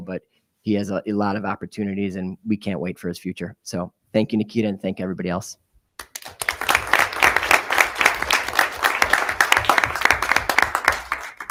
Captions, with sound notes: but he has a lot of opportunities and we can't wait for his future. So thank you Nikita, and thank everybody else. (audience applauding)